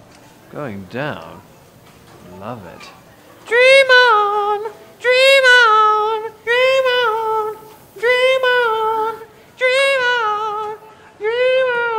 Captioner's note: higher pitch voice